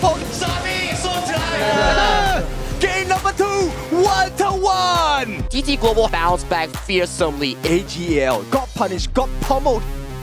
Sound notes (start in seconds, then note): 0.2 exclaims; 2.9 commentator in English